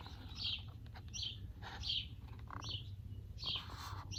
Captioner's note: birds chirping